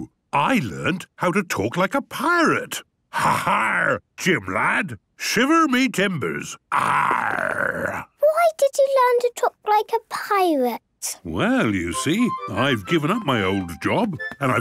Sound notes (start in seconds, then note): 3.1 menacing voice; 6.7 he growls